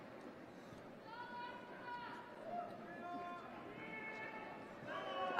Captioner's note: shouting